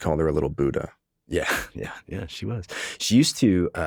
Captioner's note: chuckles